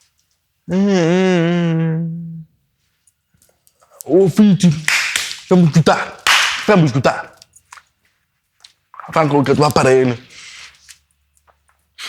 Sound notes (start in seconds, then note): 0.7 boy groans; 6.2 claps